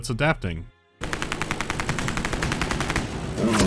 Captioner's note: gunfire